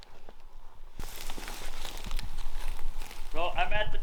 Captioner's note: brush rustling